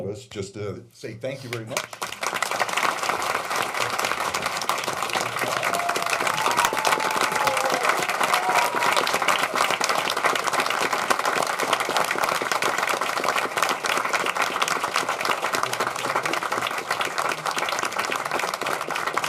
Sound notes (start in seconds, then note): 4.8 applause